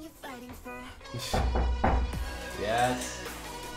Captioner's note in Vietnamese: cốc cốc cốc